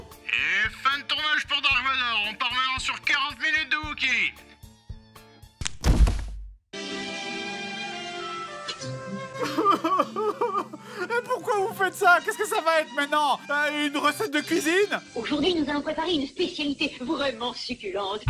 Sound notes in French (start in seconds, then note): 5.4 se craque lui-même la nuque; 9.4 pleurs